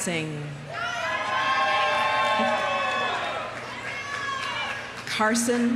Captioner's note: audience cheering; audience applauding